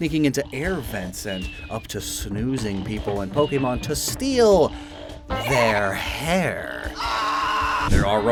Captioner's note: screams